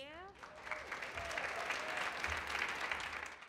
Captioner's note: hands clapping